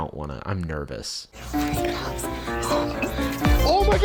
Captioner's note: whispering